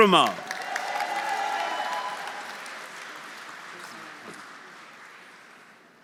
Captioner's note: audience cheering; audience applauding